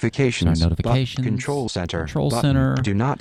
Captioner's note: electronic Voice